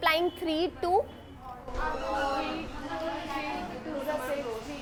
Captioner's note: students talking